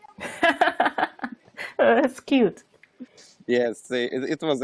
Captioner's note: laughs